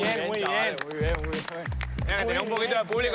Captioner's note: applause